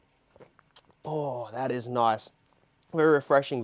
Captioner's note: gulps